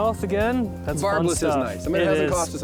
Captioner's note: pat